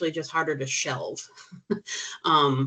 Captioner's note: chuckling